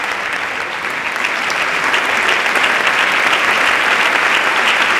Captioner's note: applause continue